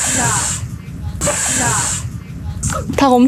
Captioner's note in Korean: 하악질